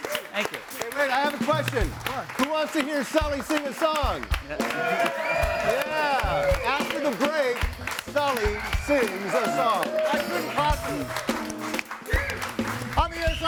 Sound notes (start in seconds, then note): 4.6 audience cheering and applauding; 11.5 upbeat music continues